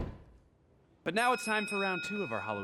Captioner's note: bell rings